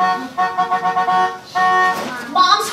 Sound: horn honking

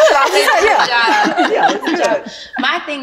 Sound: all laughing

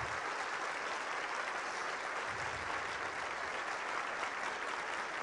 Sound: applause

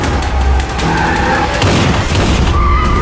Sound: gunshot

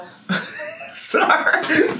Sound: laughs

